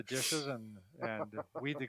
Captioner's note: laughs